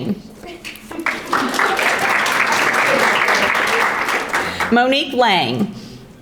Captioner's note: audience applauding